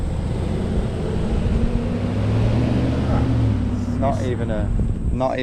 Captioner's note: truck drives off